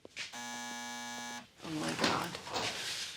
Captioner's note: buzzer buzzes